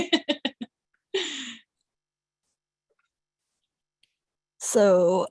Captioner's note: laughter